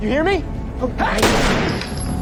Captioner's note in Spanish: Disparo